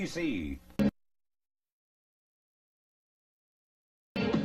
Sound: silence

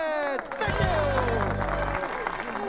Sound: applause

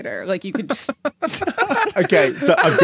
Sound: cackle

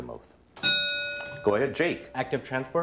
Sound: ding

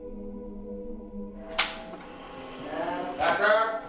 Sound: man shouts

